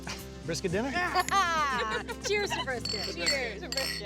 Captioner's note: laughs